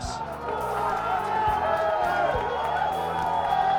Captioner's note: applause